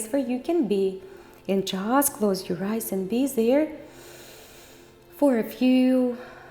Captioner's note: inhales